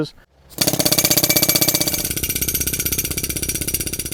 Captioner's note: hammering